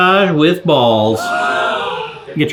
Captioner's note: audience gasping